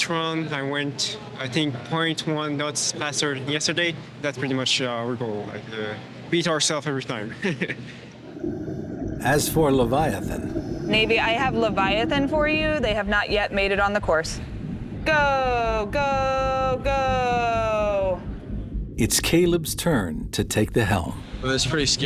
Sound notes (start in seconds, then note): 7.7 laughs